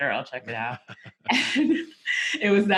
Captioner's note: chuckles